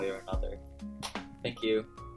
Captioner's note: unnecessary clap